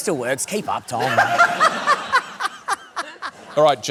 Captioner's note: laughter